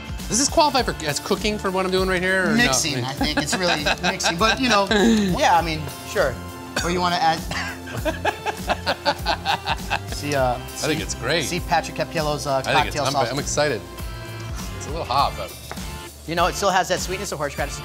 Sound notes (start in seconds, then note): 6.6 coughs and laughs